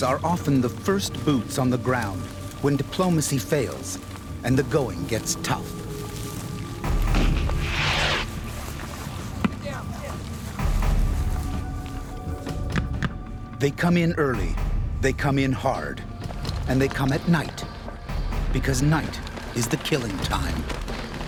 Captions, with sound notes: are often the first boots on the ground when diplomacy fails and the going gets tough. (explosion) - [Voiceover] Get down, get down. - [Voiceover] They come in early, they come in hard, and they come at night because night is the killing time.